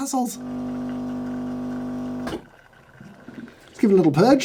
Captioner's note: machine brewing